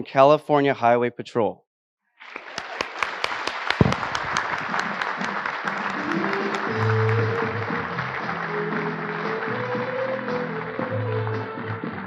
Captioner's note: applause